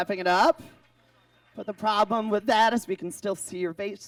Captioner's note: audience claps